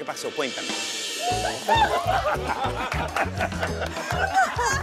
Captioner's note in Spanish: Risas